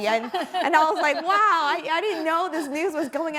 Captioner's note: panelists laughing